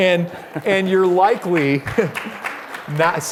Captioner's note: applause